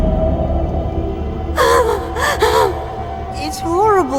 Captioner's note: terrified gasp